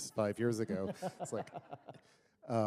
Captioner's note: laughter